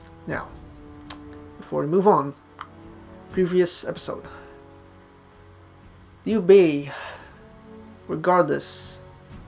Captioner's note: sighs